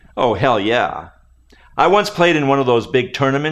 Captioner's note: none